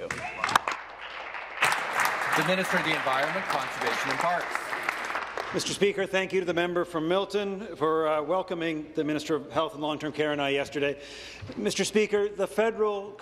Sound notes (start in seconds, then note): 3.2 applause